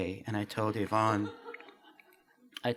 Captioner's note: laughter